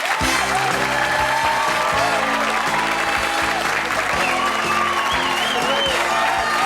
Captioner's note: audience applause; upbeat jazzy music